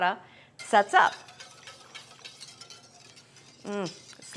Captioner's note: hand whisk mixing